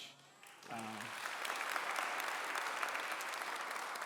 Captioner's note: clapping